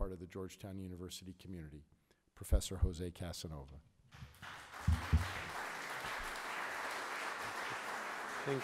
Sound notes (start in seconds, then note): 4.2 audience applauding